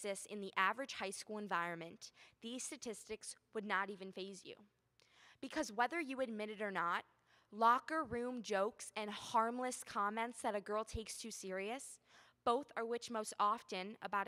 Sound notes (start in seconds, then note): none